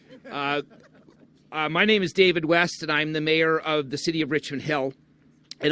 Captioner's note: laughter